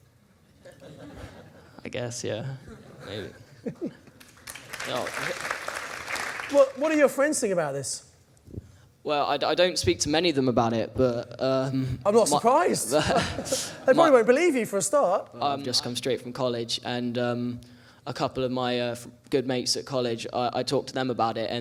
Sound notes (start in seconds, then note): 0.6 audience laughs; 3.0 laughs; 4.1 audience applauding; 12.8 laughs